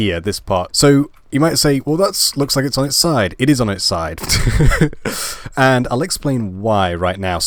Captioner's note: laugh